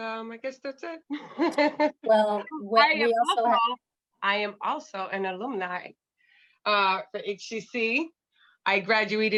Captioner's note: laughter